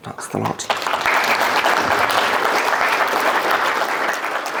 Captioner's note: crowd applauding